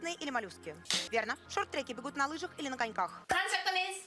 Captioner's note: Hikakin's handclap